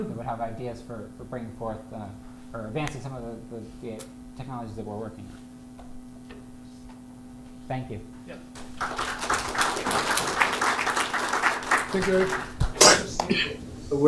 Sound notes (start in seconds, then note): 8.5 applause